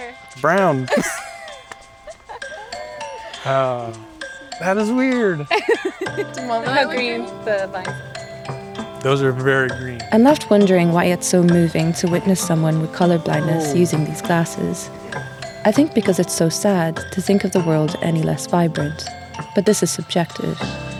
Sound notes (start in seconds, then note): 0.8 laughter